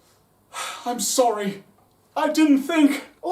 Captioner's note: sighs